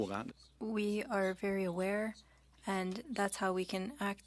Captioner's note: speaking French